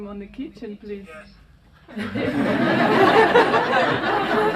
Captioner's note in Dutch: gelach